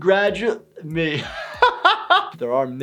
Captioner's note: laughs